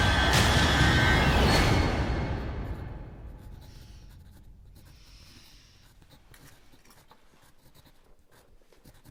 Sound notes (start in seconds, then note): 2.6 pencil scratching